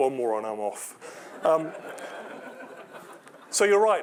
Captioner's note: laughter